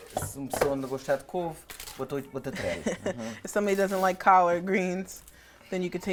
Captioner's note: speaking in portuguese